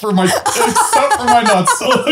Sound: laughing

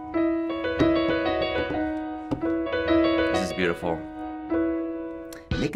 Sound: drums on table

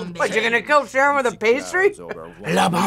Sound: laughs

